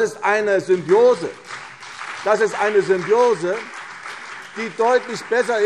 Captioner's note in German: Beifall CDU und BÜNDNIS 90/DIE GRÜNEN